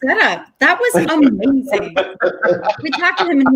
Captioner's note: group laughing